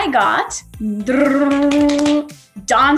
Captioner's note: imitates drum roll